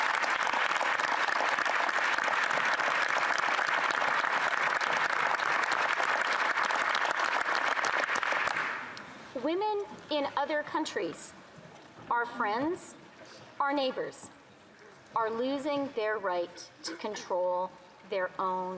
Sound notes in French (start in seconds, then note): 6.5 applaudissements